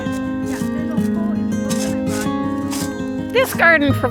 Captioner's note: background chatter